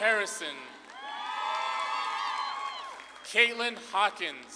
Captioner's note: audience claps and cheers